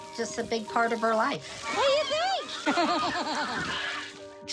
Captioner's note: laughs